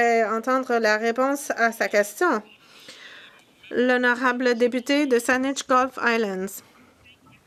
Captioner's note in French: voix de l'interprète